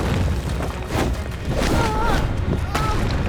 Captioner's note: groaning